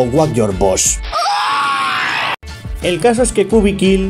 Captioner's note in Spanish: chillido de Markiplier